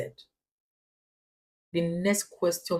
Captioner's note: paause